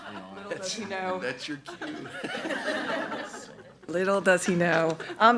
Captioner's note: members laughing